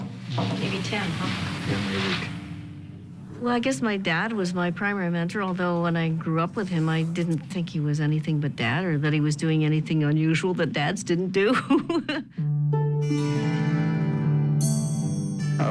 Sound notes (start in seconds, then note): 11.4 laughs; 12.6 gentle music